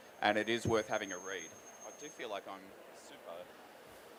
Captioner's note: microphone feedback